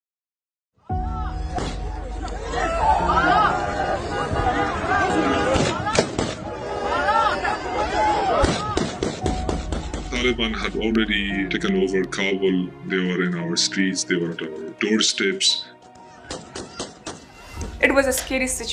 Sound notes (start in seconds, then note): 0.0 gunfire blaring; 0.0 sad music; 15.9 crowd shouting; 16.3 gunfire blaring